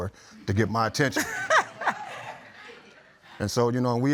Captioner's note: laughs